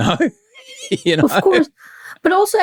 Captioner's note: laughs